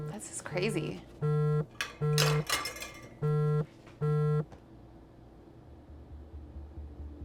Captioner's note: phone continues buzzing erratically; gentle tense music